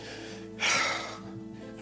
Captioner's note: heavy sigh